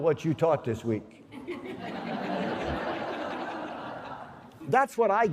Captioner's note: laughter